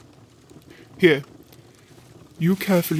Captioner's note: plants rustle